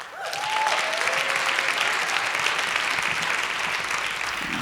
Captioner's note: applause